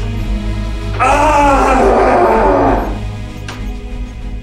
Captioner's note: screams in rage